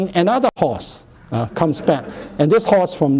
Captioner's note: laughter